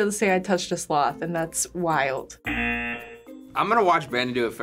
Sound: buzzer

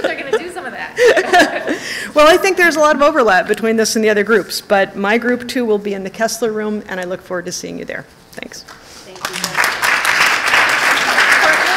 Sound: laughter

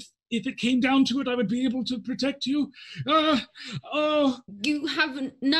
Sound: groans

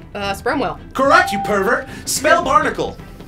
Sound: electronic bell chimes

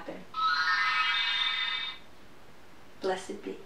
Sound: wand sound

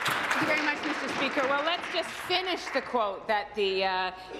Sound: applause

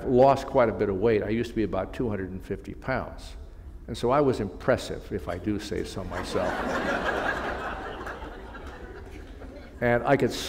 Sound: laughter

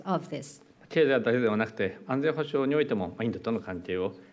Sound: speaking japanese

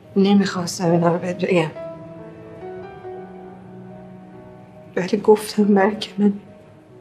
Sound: none

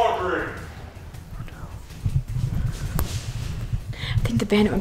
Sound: whispers

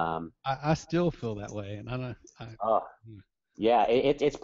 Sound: voiceover

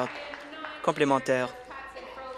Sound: applause

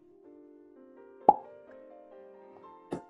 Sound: pops cheek

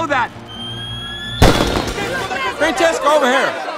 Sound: fireworks explode

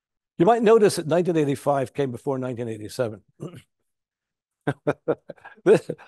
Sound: laughs

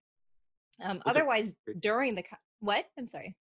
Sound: voice muffled

